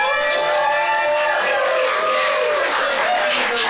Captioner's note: cheering